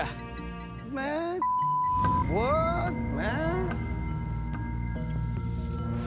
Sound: beeping; dramatic music

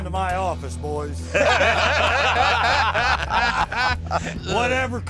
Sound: laughter

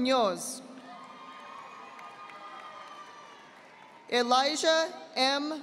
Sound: audience applauding

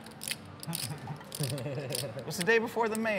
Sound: laughing

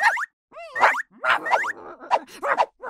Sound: continues barking

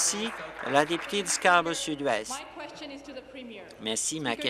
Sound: applause

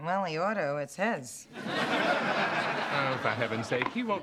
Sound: laughter

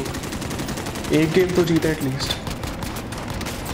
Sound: speaking foreign language

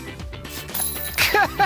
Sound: basket chiming; laughing

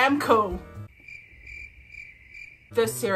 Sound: crickets

